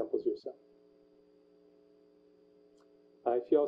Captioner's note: pause